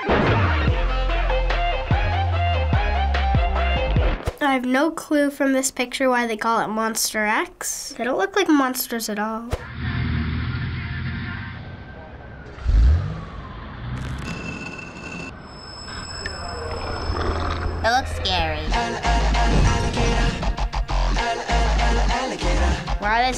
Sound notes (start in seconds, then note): 0.0 pop music; 9.7 car engine revs; 15.4 music screeches